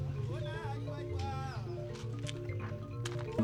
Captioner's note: birds chirping; footsteps scuffing on rocks